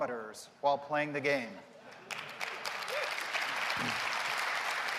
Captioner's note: applause